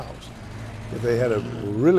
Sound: car engine roaring

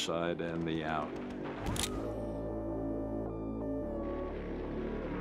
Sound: camera shutter

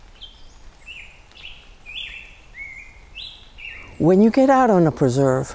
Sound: bird song

